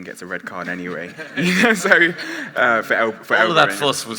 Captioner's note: laughing